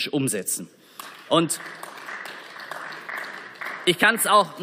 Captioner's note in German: Beifall